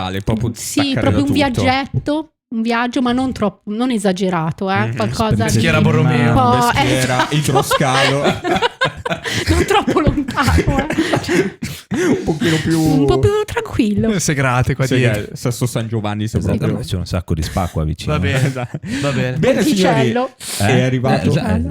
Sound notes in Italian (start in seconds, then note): 6.7 laughter